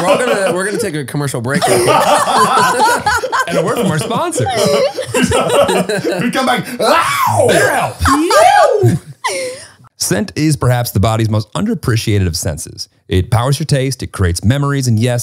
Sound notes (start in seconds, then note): 1.5 they all laugh; 6.8 shouts